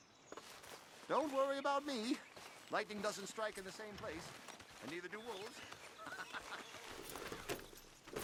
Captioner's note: laughs